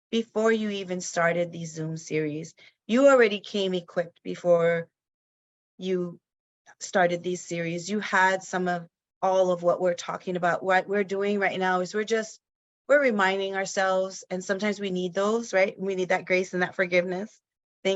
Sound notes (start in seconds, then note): none